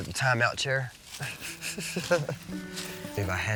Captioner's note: laughing